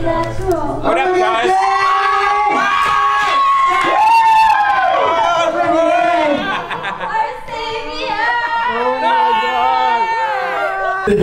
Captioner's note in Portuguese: Gritos